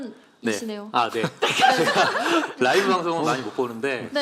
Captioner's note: laughter